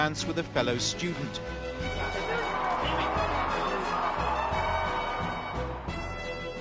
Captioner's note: crowd cheering